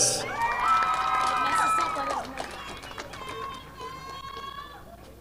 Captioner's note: audience applauding